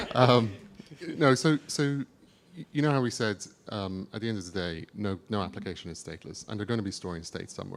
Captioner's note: chuckle